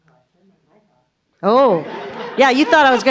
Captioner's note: audience laughs